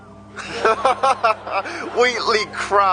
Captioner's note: audience laughing